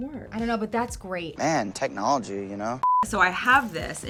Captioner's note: beeping